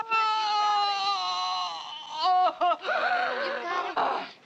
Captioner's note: groaning